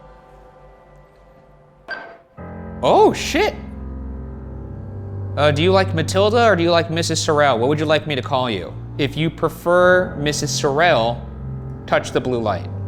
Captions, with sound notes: (device beeps) Oh shit! Do you like Matilda or do you like Mrs. Sorrel? What would you like me to call you? If you prefer Mrs. Sorrel touch the blue light.